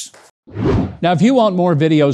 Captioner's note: air whooshes